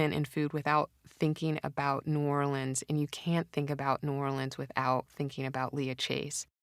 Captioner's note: none